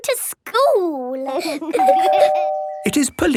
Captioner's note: door bell ringing